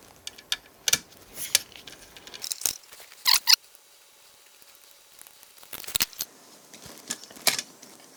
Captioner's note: squeaking sound